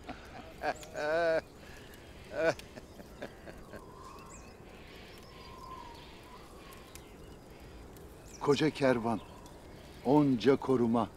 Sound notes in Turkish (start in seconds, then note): 0.0 Gülme sesleri; 3.0 Rüzgâr sesi